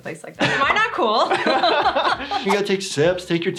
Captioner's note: laughing